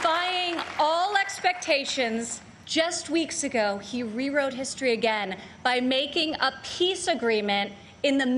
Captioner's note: applause